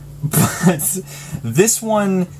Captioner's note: chuckling